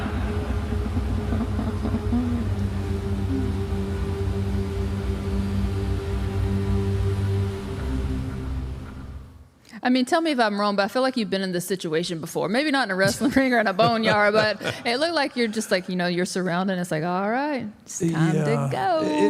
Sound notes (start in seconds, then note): 0.0 laughs; 0.3 suspenseful music; 13.1 Mark laughs